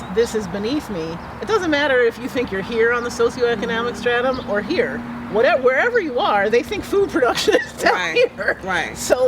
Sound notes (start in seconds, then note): 7.2 laugh